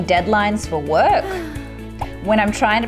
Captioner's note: sighing; couple grunting